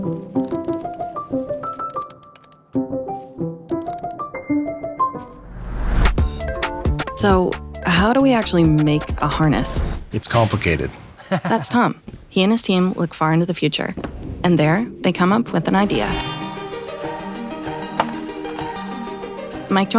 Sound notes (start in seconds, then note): 0.2 playful music; 11.1 laughs; 17.2 playful music